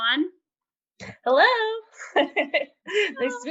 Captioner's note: laughter